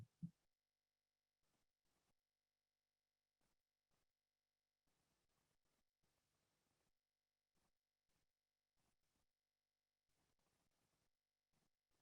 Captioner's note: silence